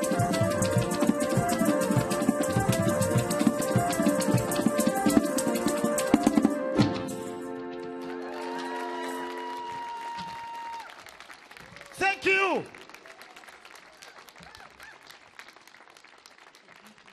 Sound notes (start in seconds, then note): 7.7 audience clapping; 8.0 audience cheering